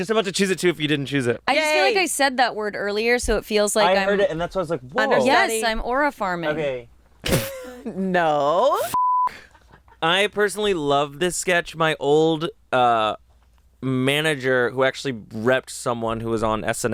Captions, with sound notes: - I was just about to choose it too if you didn't choose it. - Yay. - I just feel like I said that word earlier so it feels like I'm- - I heard it and that's why I was like, whoa. - Yes, I'm aura farming. - No. - (beep). - I personally love this sketch. My old manager who actually repped someone who was on "SNL,"